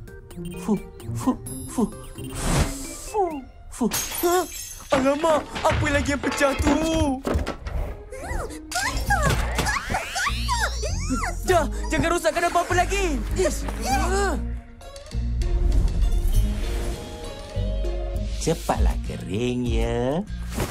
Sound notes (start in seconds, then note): 0.1 puffs air politely; 3.6 echoing crash; 9.6 unhappy squeal; 10.1 giggles; 14.2 quirky music playing